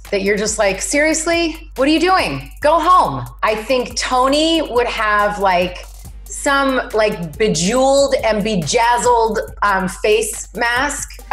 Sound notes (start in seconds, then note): none